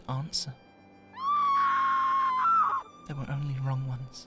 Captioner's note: woman screams from outside